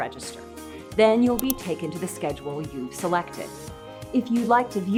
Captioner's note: mouse Click